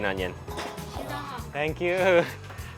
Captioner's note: speaking foreign language